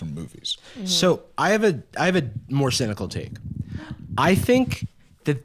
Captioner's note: gasps